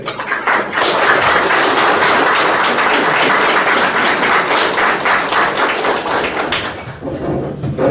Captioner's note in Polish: oklaski